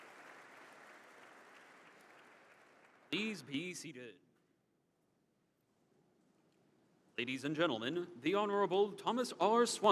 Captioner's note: applause